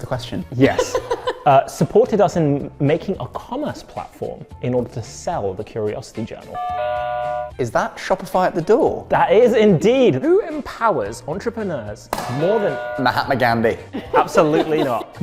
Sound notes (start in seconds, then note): 0.6 laughing; 6.5 doorbell rings; 12.3 doorbell rings